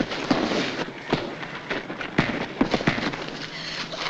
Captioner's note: punches landing